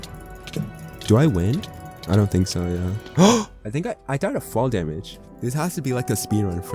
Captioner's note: gasp